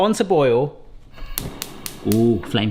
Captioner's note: gas ignition clicking